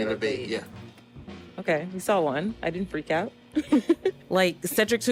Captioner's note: laughs